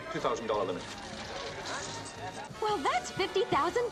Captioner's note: coins clinking